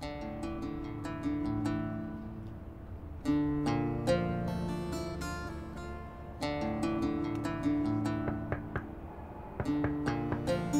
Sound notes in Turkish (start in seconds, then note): 8.2 Kapı Çalıyor